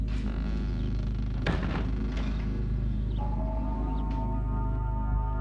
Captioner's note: door creaking